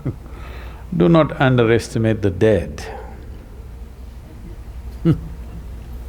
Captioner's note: laughs; laughs